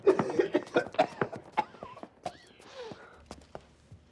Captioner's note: coughing